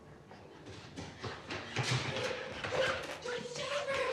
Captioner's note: feet squeaking